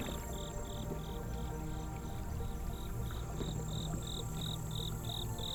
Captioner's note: insects chirping